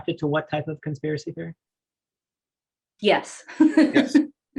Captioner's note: laughing